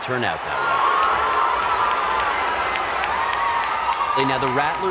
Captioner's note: crowd cheering